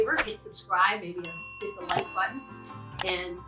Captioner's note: bell dinging